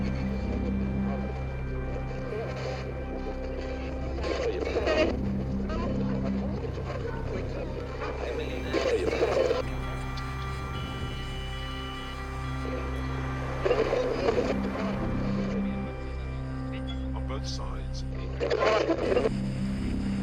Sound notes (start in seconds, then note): 9.5 distorted feedback echoing; 9.5 static crackling; 17.4 radio Announcer